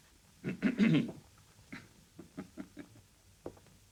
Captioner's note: Nemek clears throat; Nemek chuckles